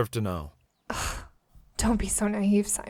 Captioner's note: scoffs